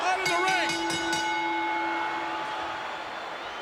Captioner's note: bell rings